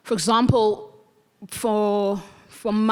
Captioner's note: none